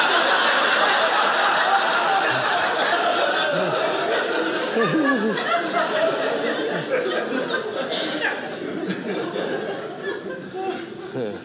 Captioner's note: audience laughing